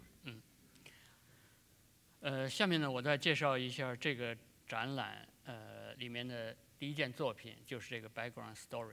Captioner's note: speaking in Chinese